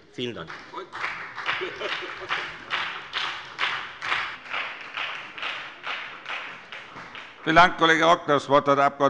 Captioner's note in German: Beifall bei der FDP und bei Abgeordneten der SPD